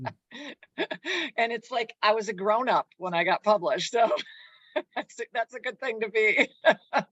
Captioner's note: laughs